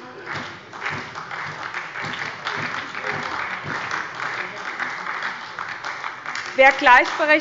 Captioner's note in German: Beifall bei der SPD